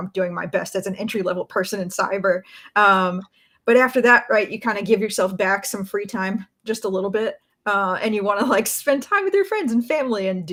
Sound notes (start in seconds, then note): none